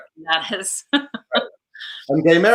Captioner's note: laughs